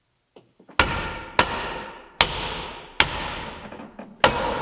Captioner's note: board thudding